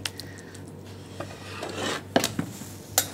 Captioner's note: scraping noises